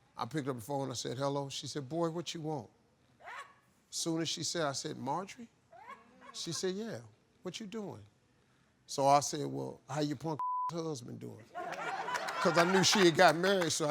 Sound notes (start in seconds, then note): 10.4 beep; 11.6 crowd laughing